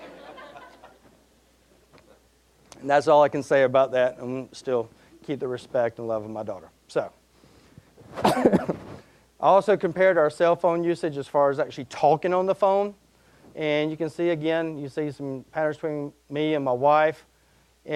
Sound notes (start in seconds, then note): 0.0 audience laughing; 8.2 coughing